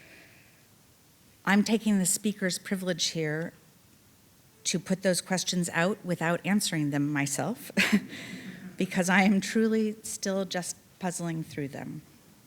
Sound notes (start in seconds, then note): 7.7 chuckling; 7.8 audience laughing